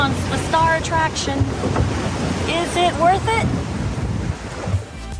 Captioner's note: waves breaking